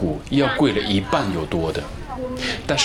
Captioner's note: Cantonese